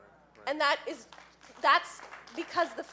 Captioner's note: audience applauding